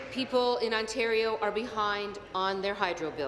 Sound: applause

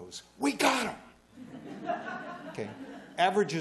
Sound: laughter

